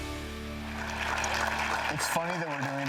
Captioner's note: audience applauds